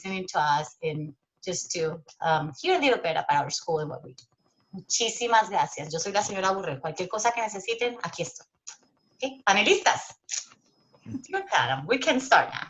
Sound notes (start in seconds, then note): 6.0 speaking Spanish